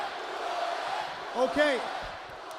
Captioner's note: crowd cheering